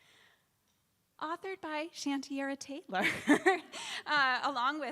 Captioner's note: laughs